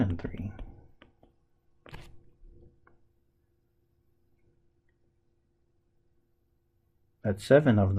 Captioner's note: tapping Sounds